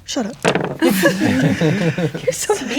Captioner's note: dice rolling; players laughing